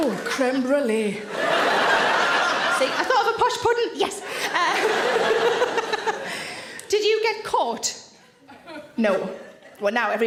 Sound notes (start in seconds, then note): 1.2 audience laughs; 4.4 Sarah laughs